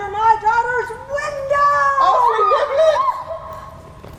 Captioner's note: crys of fear